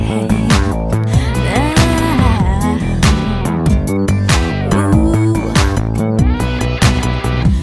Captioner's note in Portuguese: vocalizações